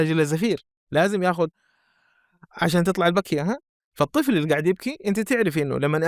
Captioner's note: taking a deep breath